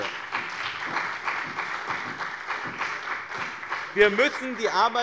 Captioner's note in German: Beifall bei dem BÜNDNIS 90/DIE GRÜNEN und der CDU